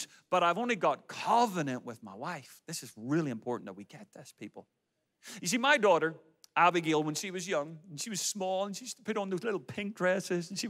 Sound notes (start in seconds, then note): none